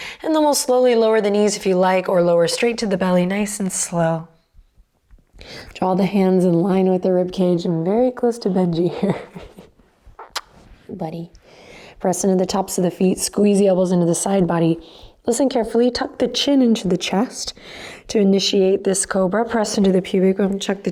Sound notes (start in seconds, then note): 8.9 chuckles; 10.1 kiss